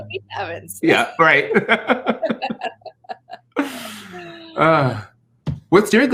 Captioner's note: laughter